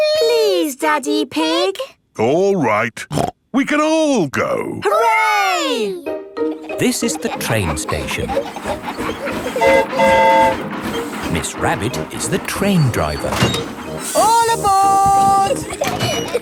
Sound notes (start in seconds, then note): 9.3 train whistle toots